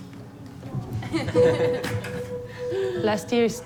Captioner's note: all laugh